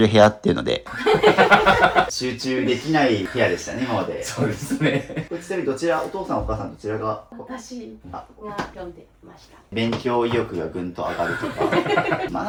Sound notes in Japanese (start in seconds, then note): 0.8 笑い